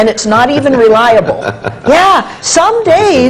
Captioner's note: laughs